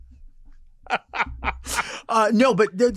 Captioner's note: laughing